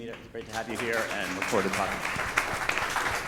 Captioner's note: speaks faintly; attendees applauding